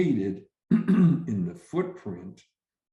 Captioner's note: clears throat